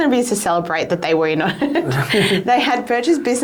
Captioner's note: both laughing